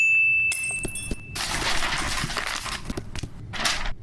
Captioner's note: lightbulb dings; paper shuffles